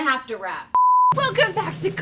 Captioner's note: screen beeps